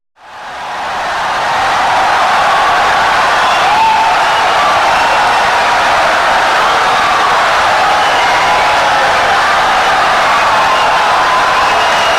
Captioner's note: wild applause and cheering for 17 seconds